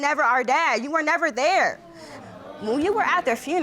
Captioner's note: audience exclaims